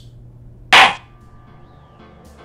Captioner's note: gavel slam!